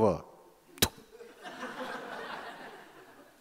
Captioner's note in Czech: zvuk střelby